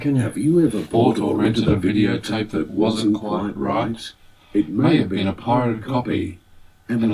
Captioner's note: tv audio